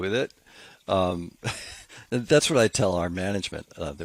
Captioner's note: chuckles